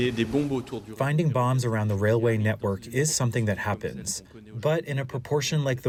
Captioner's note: through translator